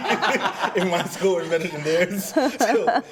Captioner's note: everyone laughs